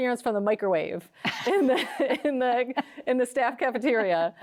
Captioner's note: both laughing